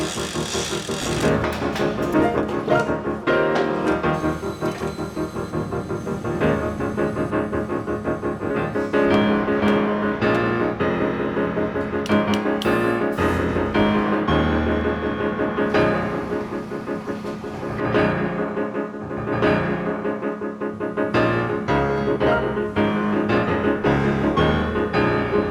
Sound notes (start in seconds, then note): 0.0 crank clicking; 4.3 intense piano music continues; 11.9 hammer tapping; 21.4 intense piano music continues